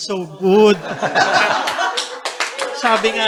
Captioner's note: laughter, applause